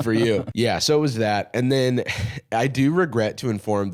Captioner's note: sighs